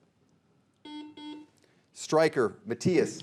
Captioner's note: buzzer beeping